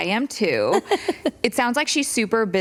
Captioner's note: laughter